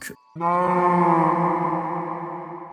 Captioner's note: Minecraft Moo sound effect